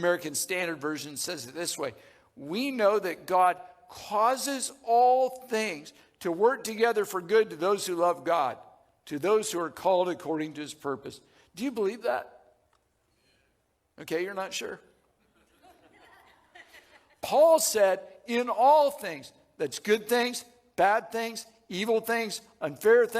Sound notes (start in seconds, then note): 15.3 audience laughing